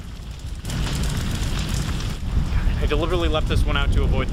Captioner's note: fire flaming